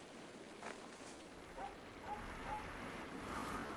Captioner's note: dog barking